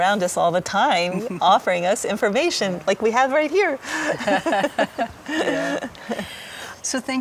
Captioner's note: both laughing